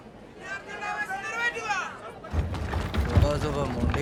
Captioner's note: indistinct chatters